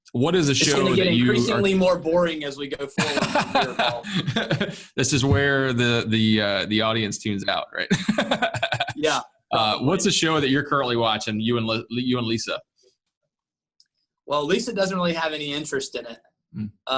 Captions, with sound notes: What is the show that you-- - It's gonna get increasingly more boring as we go forward-- (laughs) (laughter crowds out speaker). - This is where the audience tunes out, right? (laughs) - Yeah. - What's a show that you're currently watching you and Lisa? - Well, Lisa doesn't really have any interest in it.